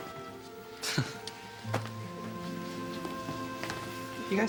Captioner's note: awkward laugh